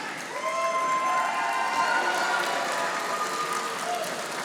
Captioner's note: audience applauding